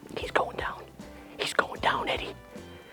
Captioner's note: whispers